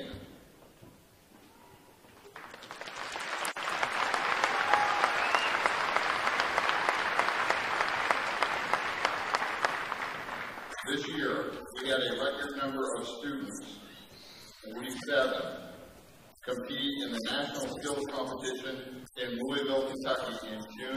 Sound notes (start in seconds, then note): 0.7 applause